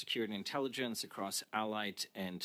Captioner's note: speaking French